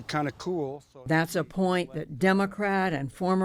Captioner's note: voice-over